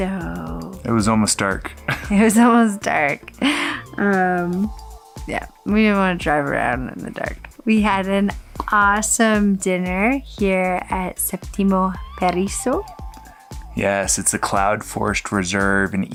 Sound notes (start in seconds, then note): 1.7 chuckles